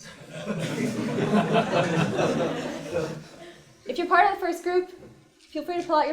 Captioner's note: laugh